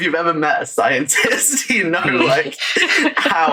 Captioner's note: laughs